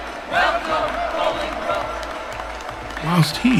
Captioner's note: crowd cheering: Jesu preserve thee!; crowd cheering: Welcome, Bolingbroke!; crowd applause